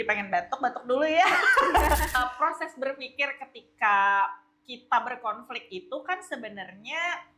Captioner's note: laughs